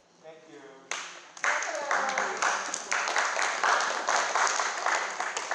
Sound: group clapping

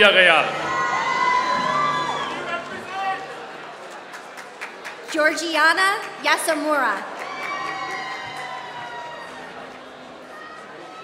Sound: applause

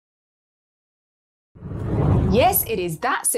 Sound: air whooshes

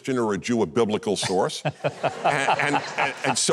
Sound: Huckabee and audience laugh

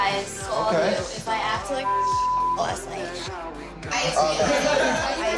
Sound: beep

